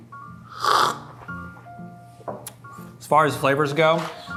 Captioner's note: slurps